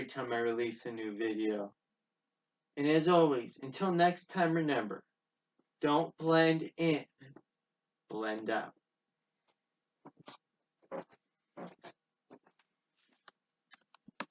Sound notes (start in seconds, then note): 10.0 footsteps